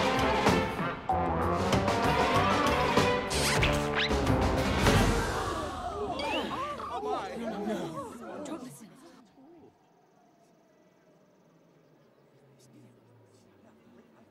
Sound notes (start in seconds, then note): 4.5 stunned gasps; 11.2 everyone goes quiet